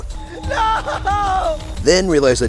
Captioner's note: some dude shouting